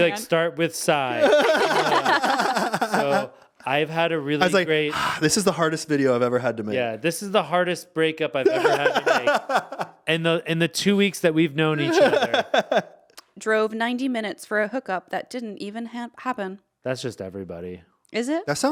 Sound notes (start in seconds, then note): 1.1 laughing; 4.8 sighs; 8.4 laughing; 11.8 laughing